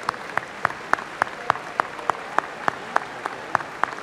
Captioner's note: applause